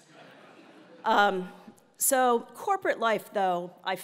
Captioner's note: laugh